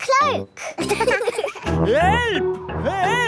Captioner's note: laughing